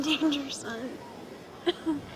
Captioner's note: coughing